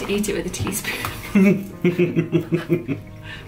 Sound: laughing

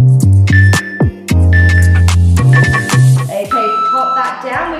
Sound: countdown timer beeping

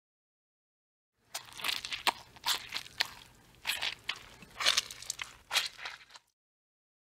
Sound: sound of animal eating

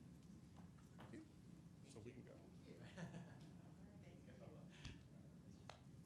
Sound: people chattering softly

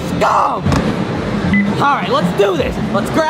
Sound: machine beeps

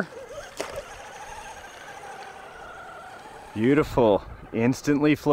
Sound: engine whirring

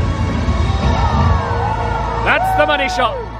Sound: crowd cheering

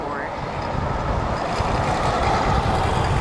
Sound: heavy wind rumbling

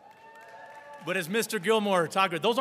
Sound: audience cheering and applauding

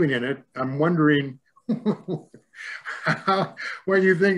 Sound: laughing

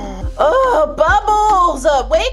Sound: Bubbles snoring; Blossom groaning

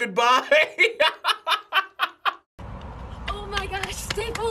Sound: laughs

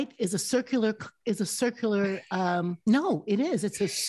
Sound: chuckling

